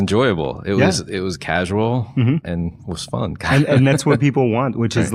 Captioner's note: laughs